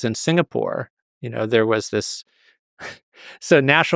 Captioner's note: chuckles